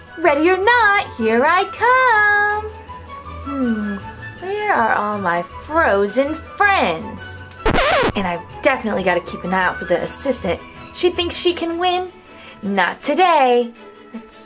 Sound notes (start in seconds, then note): 7.6 record scratches